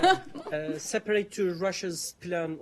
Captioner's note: laughter